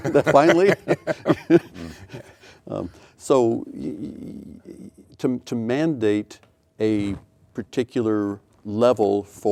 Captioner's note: laughing